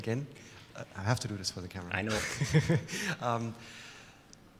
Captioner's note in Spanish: risas